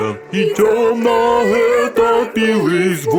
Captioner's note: sobbing